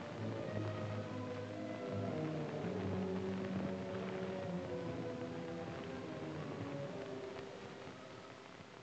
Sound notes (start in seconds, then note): 1.0 solemn music; 2.3 fire crackling